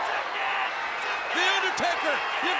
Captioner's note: crowd chattering